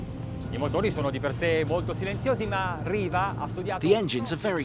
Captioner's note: speaking foreign language